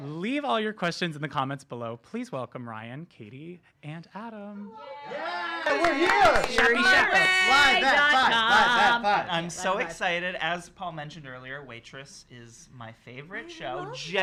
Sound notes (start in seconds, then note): 4.9 cheers and applauding